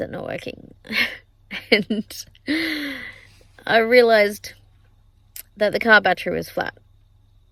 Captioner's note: aughing